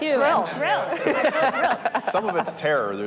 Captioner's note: group laughing